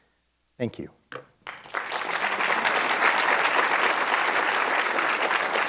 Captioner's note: applause